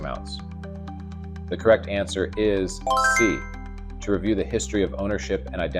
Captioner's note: bell dinging